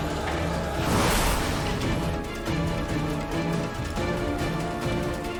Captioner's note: power whooshing; dramatic suspenseful music